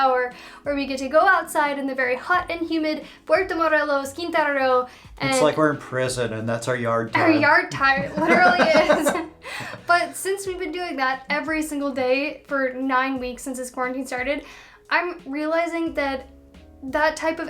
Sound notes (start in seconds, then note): 7.9 laughter